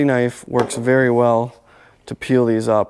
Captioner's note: knife thudding